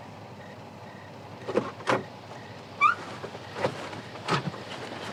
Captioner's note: car door creaks open